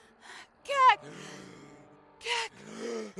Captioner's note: Kaak gasps